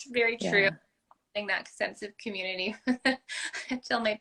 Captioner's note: laugh